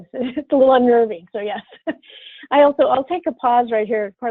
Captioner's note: laughs